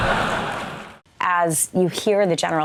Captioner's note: laughter